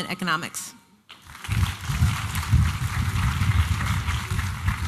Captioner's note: applause